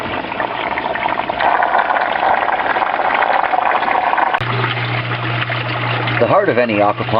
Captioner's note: water sounds